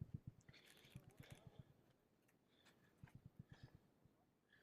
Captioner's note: gravel crunching